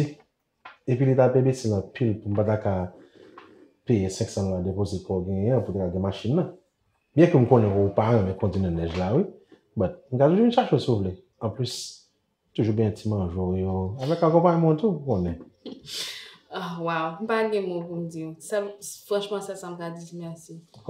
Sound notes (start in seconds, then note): 14.0 giggles